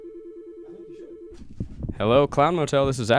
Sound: phone ringing

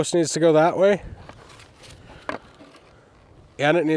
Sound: wood clunking

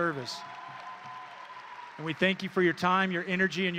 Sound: audience and graduates cheering

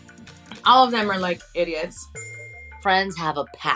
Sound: bell dings

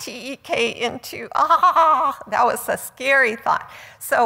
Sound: quivers

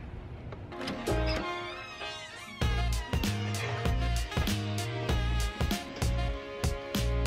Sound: door creaking; upbeat music

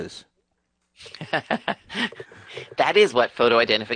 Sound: laughing

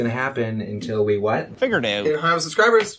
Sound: Canadian accent

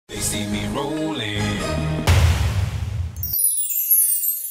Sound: crash

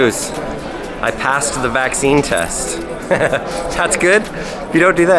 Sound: laughs

